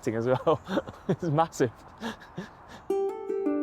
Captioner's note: laughing; gentle instrumental music